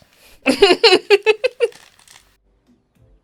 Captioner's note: laughter